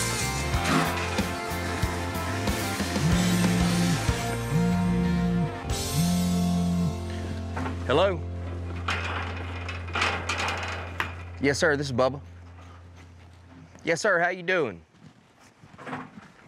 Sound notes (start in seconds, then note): 0.4 water spraying; 4.4 phone vibrating